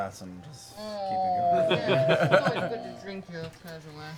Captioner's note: laughter